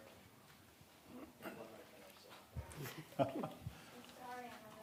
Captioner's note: indistinctive chattering